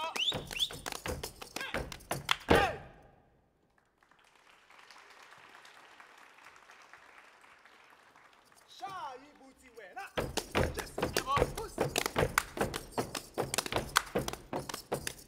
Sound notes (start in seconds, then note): 0.0 whistling; 3.6 audience applauding; 8.9 speaking language other than English; 10.0 drums beating